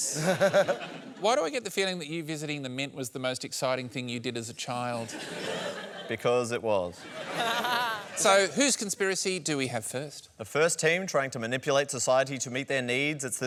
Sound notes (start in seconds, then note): 7.0 laughter